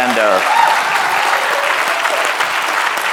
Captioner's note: cheers and applause